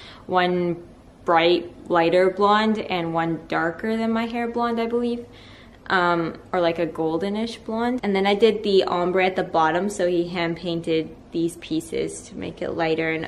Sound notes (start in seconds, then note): none